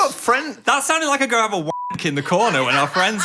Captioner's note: beep